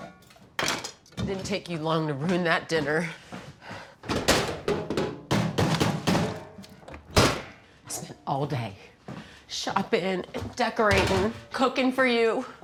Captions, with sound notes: It didn't take you long to ruin that dinner. [TRASH CAN CLANKING] I spent all day shopping, and decorating, cooking for you.